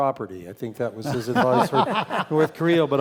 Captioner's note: laugh